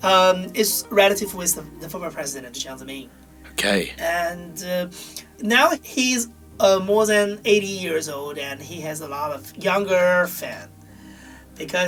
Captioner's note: voiceover